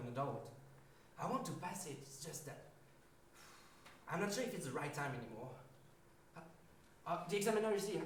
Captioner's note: sigh